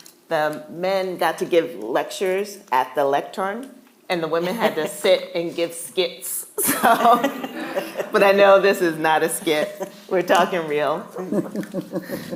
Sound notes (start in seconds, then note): 6.6 laughing